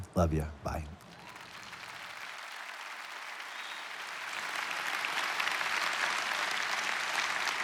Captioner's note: congregation applauding; congregation cheering